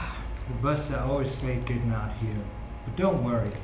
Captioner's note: sigh